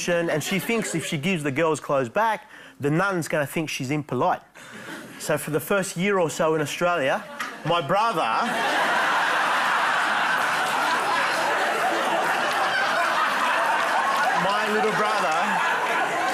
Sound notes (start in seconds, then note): 8.3 laughter